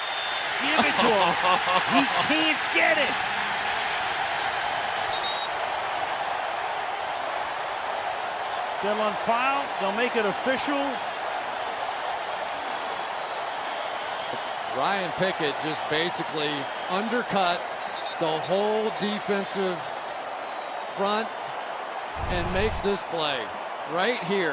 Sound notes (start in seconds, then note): 3.9 cheering; 5.0 whistles